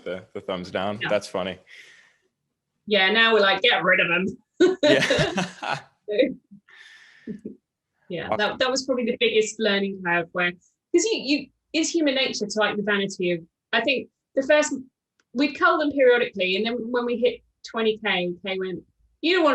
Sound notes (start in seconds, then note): 4.8 both laughing